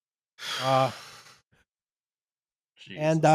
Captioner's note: blows out gustily